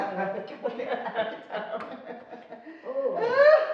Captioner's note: laughing